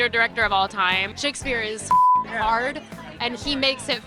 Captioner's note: beep